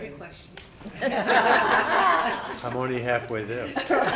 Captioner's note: laughing